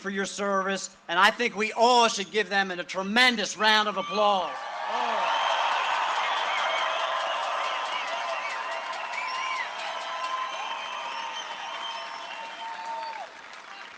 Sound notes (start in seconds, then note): 1.4 cheering and applause